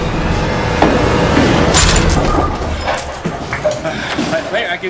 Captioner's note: keys clinking